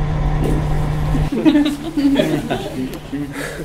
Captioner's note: everyone laughs